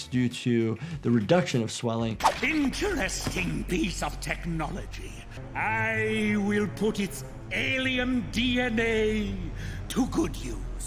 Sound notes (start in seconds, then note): none